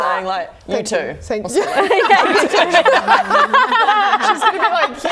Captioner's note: laughing